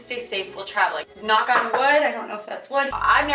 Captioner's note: knocks